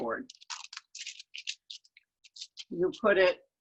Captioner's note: graphite paper rustles